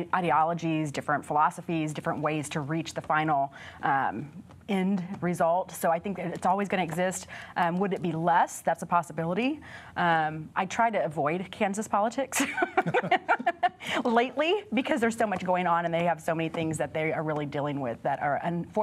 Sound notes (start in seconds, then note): 8.4 laughter